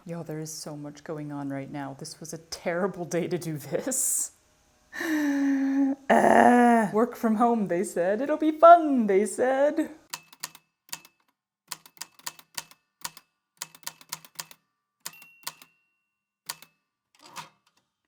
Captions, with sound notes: Y'all, there is so much going on right now. This was a terrible day to do this. [Deep inhale] Ahhhhhh! Work from home, they said. It'll be fun, they said. [The typewriter clicks and clacks away, with dings here and there]